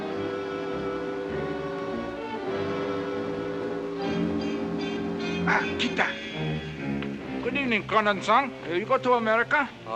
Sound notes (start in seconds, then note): 5.4 speaking in Japanese